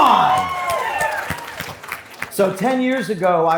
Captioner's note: audience cheering